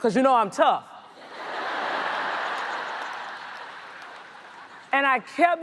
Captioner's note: audience laughs